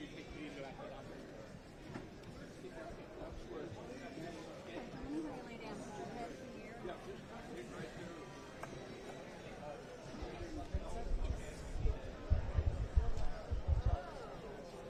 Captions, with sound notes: OK. I will have you lay down your head here. [BACKGROUND CHATTER]